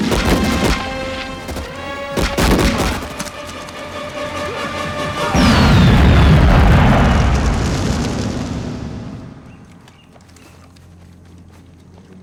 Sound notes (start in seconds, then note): 3.8 yelling